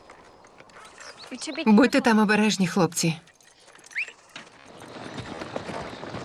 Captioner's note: Mose whistles